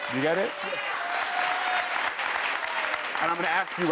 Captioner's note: cheering